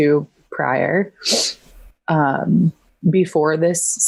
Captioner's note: sniffs